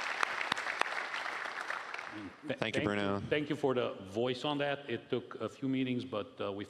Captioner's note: applause